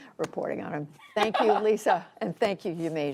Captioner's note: laughter